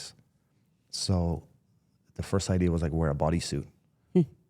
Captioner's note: none